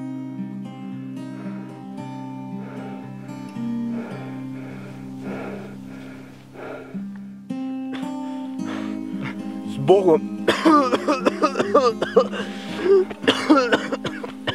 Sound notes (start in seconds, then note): 1.0 heavy breathing; 10.4 coughing